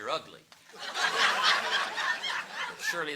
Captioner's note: audience laughing